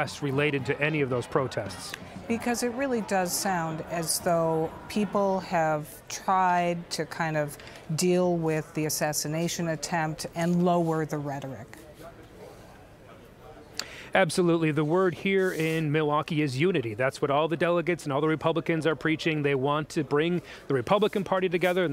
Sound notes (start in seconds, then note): 11.9 people chattering